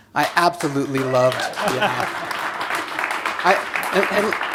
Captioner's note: cheers and applause